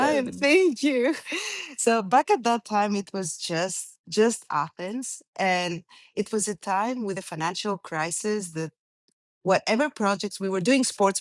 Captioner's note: laughs